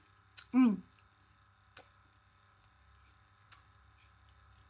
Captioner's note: chewing and sucking